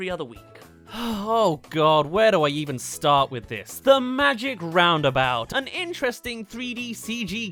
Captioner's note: sigh